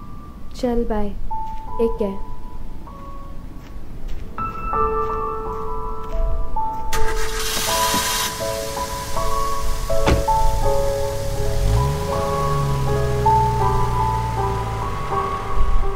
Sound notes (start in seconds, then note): 6.9 engine starts; 11.6 car driving away